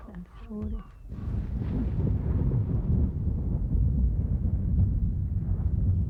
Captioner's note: thunder